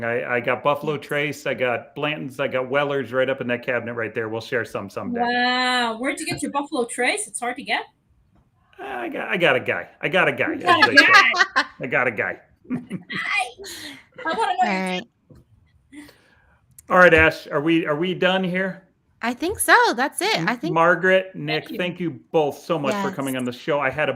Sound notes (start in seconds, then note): 10.6 laughs